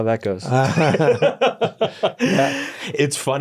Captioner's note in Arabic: يضحك